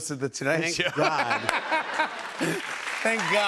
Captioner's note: laughter